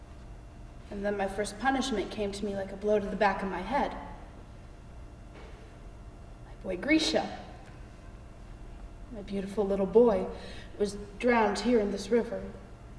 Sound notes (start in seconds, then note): none